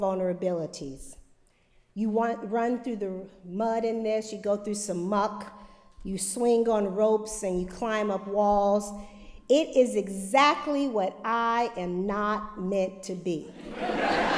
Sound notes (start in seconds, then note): 13.5 laughter